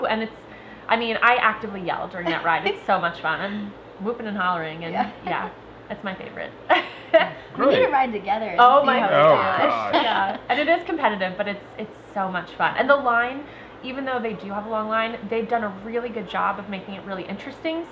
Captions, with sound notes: And it's, I mean, I actively yell during that ride. (laughter) It's so much fun, whooping and hollering. Yeah, it's my favorite. - We need to ride together! - Oh my gosh, yeah, and it is competitive, but it's so much fun, and the line, even though they do have a long line, they've done a good job of making it really interesting,